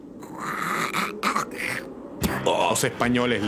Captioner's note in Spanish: spits